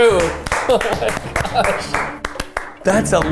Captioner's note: people applauding